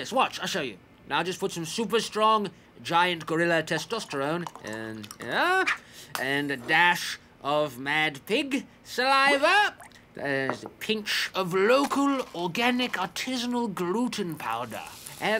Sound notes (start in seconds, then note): none